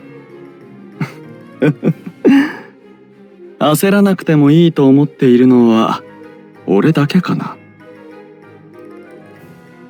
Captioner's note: laugh